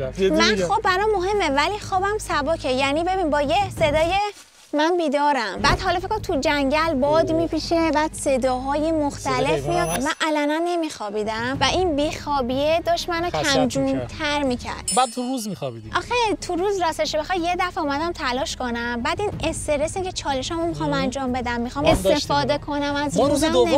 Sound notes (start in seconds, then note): 3.9 leaves rustling